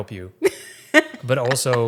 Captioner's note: laughing